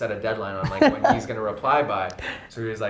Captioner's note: laughs